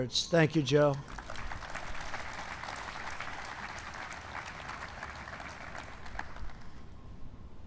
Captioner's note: applause